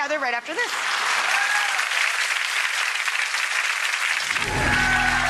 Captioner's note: audience claps and cheers